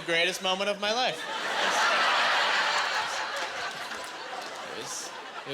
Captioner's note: laughing